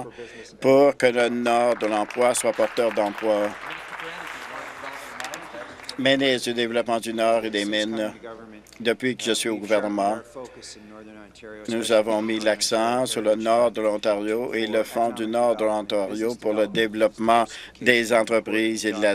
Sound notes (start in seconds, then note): 4.7 applause